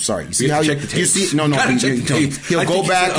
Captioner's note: laughing